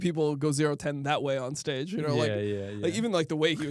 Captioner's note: laughs